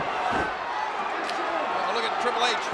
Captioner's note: foot thuds